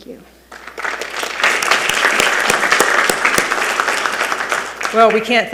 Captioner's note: attendees applauding